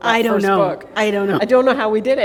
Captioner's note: chuckle